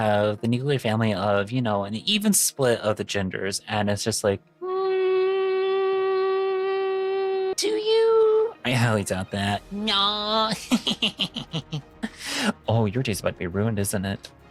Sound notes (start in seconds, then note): 10.5 laughing